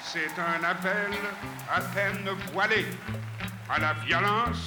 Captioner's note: speaking foreign language